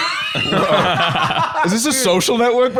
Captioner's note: laughing